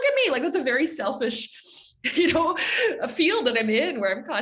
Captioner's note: chuckles